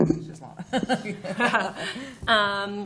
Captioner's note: laughter